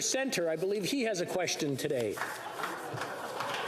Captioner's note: applause